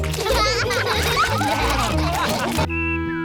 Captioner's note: all laugh